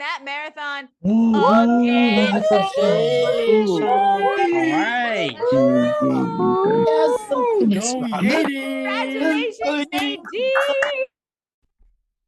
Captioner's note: cheering